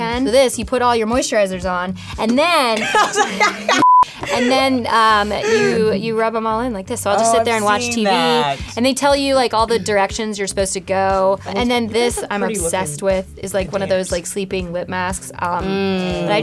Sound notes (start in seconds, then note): 3.8 beep; 4.1 laughs